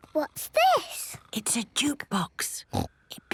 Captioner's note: whispering